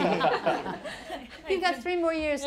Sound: laughing

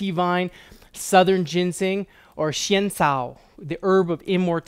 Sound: speaking in foreign language

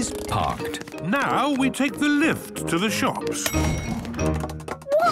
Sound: handbrake cranking; door dings open

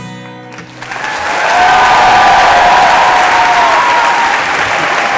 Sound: applause

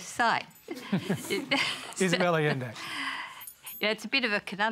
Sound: laughter

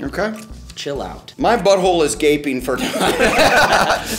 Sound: laughs

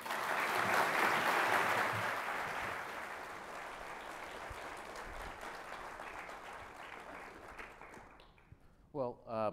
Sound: applause

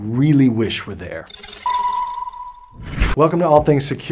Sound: logo rattling

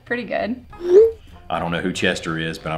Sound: text whooshing

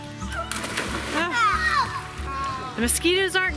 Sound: splashing

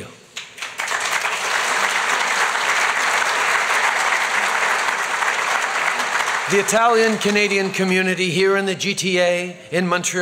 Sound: applause

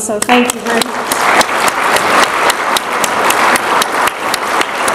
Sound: audience applaud

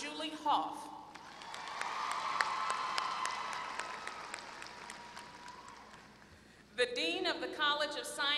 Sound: applause

